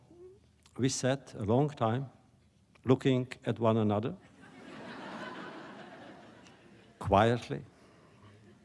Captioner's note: laughter